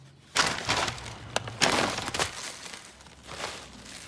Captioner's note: sound of paper bag rustling; sound of food being dumped out